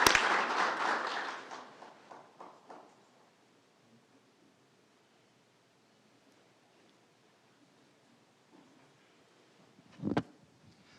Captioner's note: applause